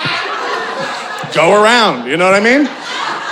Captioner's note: audience laughing